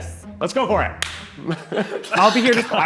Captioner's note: clapping